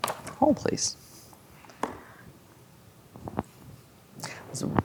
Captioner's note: dice rolling